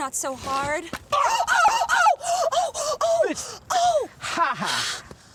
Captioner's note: both yelping